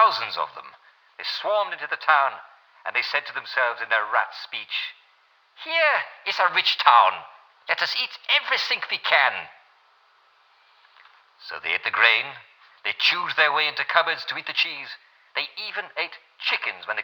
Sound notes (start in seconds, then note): 4.8 German accent; 9.6 regular accent